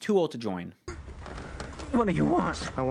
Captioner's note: Pastor straining to breathe; choked